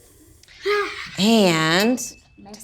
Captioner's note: sighs